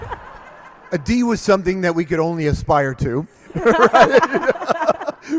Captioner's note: laughs